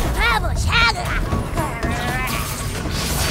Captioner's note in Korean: 울음 소리